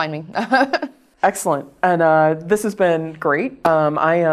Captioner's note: laugh